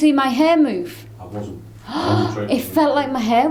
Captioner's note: gasps